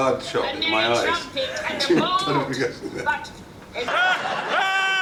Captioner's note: laughs